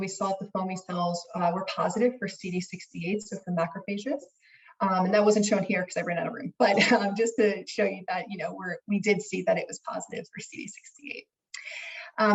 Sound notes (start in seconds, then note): 6.8 laughs